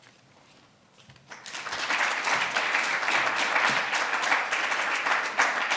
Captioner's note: audience applauding